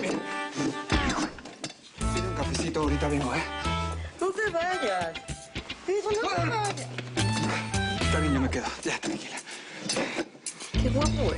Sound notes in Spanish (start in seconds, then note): 0.3 Ruidos al sentarla; 6.6 Ruido al resbalarse